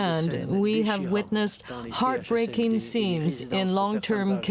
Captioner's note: speaking french